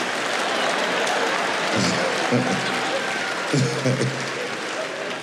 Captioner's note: audience clapping